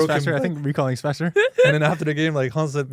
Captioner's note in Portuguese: risos